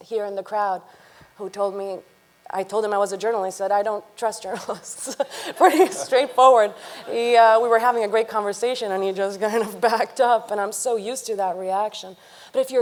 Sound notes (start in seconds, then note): 5.0 chuckles; 5.5 audience laughing